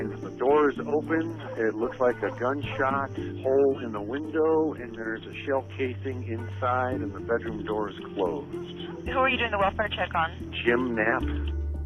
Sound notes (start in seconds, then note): 8.0 911 recording